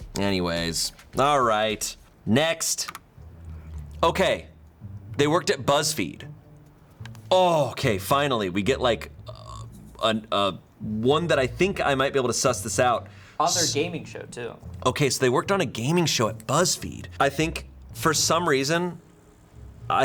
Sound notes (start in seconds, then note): 2.6 button clicks; 3.5 intriguing music